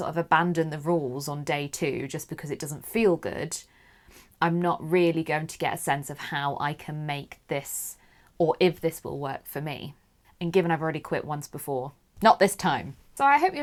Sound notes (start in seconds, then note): none